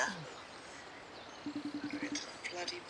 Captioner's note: FaceTime tone ringing